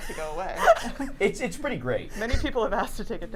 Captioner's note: laughs